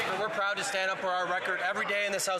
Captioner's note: some Applause